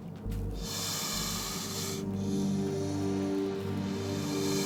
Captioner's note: snake hissing